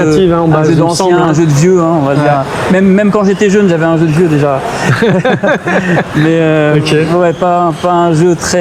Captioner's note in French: rires